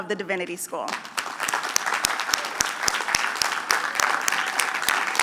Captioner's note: applause